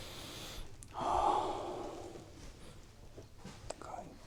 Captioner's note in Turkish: iç çeker